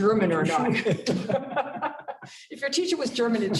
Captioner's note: laughter